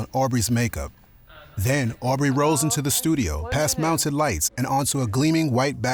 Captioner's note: chatter